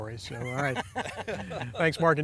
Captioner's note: laughing